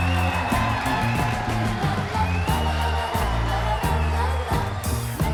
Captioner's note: crowd cheering